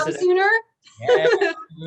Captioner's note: chuckles